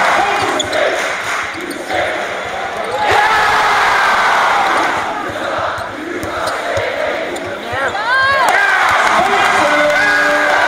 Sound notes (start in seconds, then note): 0.0 crowd chants, then cheers; 1.0 two claps; 3.0 crowd roars; 5.2 indistinct crowd chant; 7.6 cheering